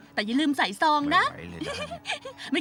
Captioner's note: laughter